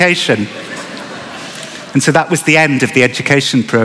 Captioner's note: laughter